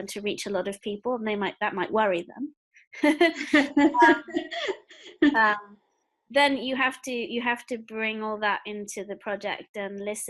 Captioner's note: laugh